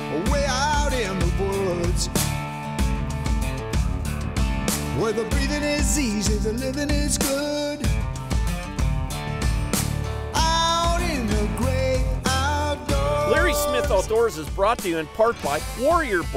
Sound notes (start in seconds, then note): 8.9 voiceover; 14.6 voiceover